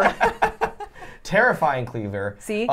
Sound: laughs

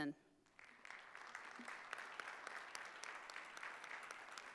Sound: audience applauding

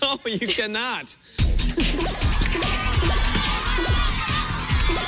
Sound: boinging; laughing; cheers and applause

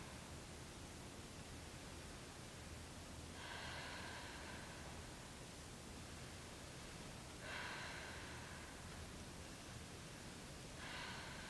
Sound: dancer breaths loudly, rhythmically with chest movements

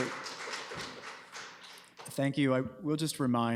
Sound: applause

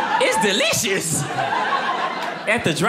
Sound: audience laughing

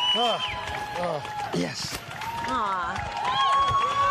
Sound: cheering

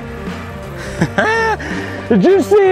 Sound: laughter

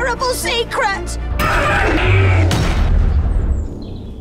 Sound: screaming

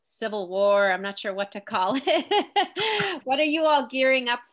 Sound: laughs

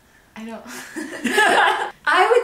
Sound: laughs

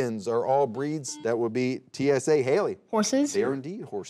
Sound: buzzer beeping

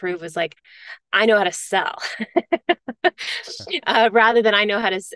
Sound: laughs

